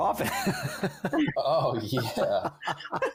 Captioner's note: laughs